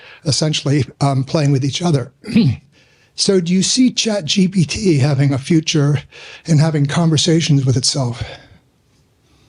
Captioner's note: clears throat